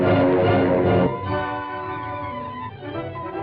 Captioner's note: beeping